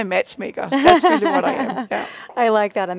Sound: laughs

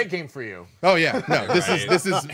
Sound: group laughing

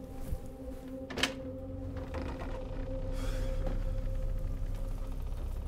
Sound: hinges creaking; latch clicks; gentle ominous music continues

